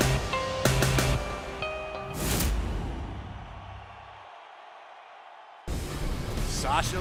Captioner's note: crowd cheering